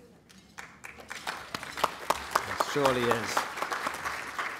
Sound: applause

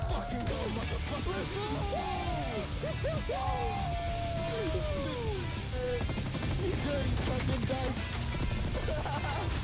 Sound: heavy Metal Music; screams and Laughter

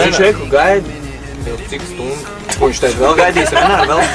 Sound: laughing

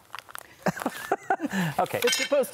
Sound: laughing

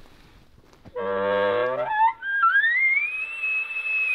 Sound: caller bugling

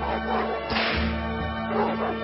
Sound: dogs barking; whip snaps

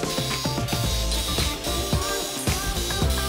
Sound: buzzing

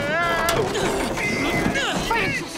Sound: yelling; straining

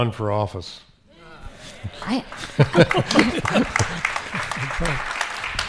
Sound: audience applauding

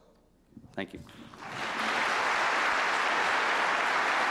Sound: applause

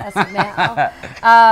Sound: laughs

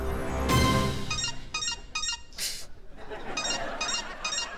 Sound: beeping

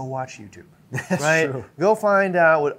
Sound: chuckle

